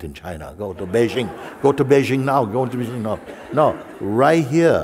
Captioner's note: laughter